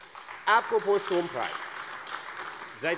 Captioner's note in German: Beifall AfD